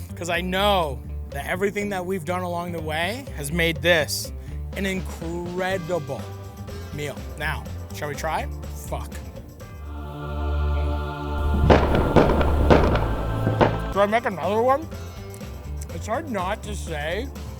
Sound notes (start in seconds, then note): 9.7 angelic choir harmonizes; 11.4 fireworks pop